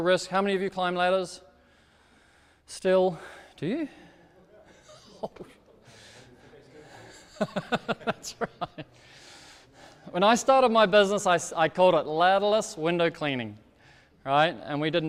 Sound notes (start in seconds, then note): 6.7 speaks off microphone; 6.8 laughs